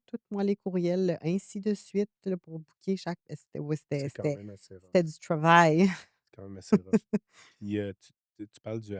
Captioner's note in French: rires